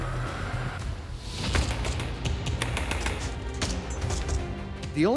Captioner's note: gunfire